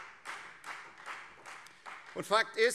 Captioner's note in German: Beifall Freie Demokraten